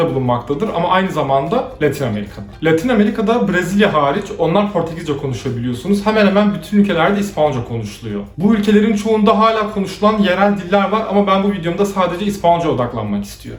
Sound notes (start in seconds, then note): 5.1 they speak Portuguese